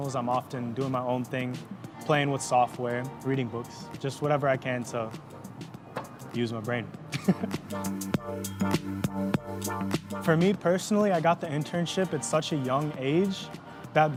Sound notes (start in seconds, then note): 7.1 laughs; 7.8 upbeat music